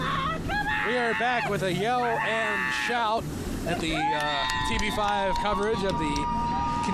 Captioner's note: cheering